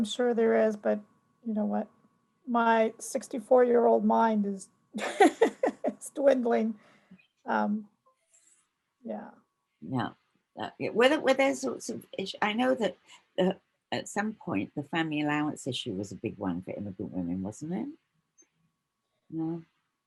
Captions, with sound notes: Oh, I'm sure there is but, you know what, my 64-year-old mind is--[laughs]--dwindling, yeah. Yeah, were there--I know that at some point the family allowance issue was a big one for immigrant women, wasn't it? No?